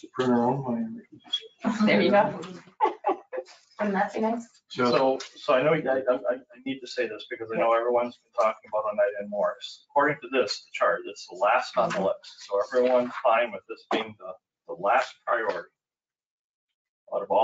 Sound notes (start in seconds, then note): 1.6 laughing